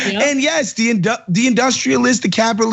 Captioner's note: laugh